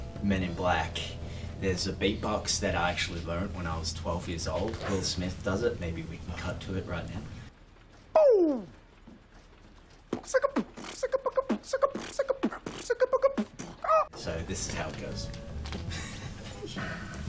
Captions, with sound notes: Men in Black there's a beat box that I actually learned when I was 12 years old. Will Smith does it. Maybe we can cut to it right now. - Boo! (beatboxing) - So this is how it goes.